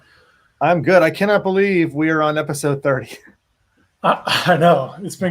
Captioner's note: laughs